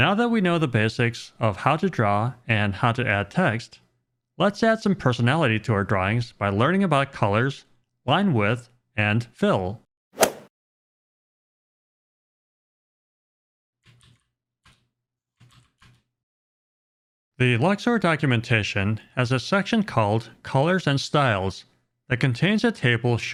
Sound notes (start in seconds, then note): 10.1 golf swing sound effect